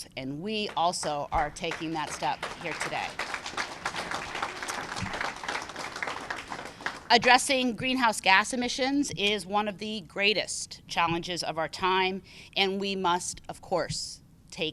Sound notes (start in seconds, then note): 3.4 applause